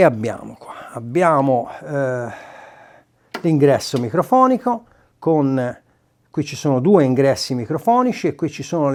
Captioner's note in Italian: sospiri